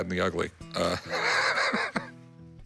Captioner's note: laughs